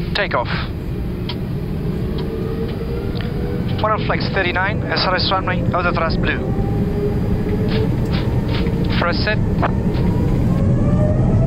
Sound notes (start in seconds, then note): 1.9 engine speeding up